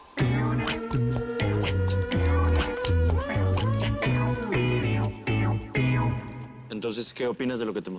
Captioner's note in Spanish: Tecleo